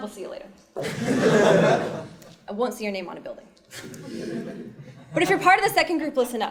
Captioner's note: laugh